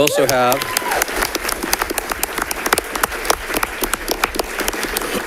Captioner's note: audience applauding